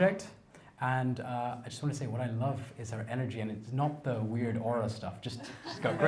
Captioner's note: laughter